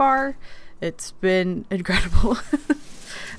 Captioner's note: laughs